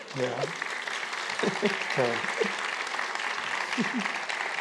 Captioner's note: applause